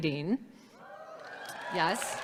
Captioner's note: audience clapping and cheering